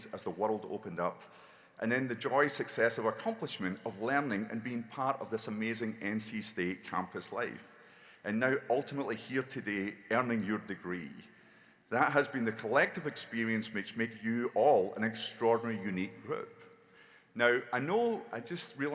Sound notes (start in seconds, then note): none